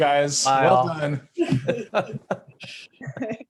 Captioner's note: laughter